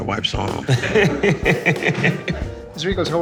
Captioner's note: laughing